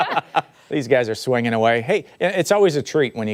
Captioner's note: laughter